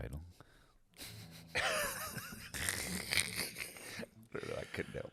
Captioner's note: laughing